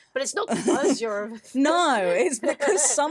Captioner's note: laughs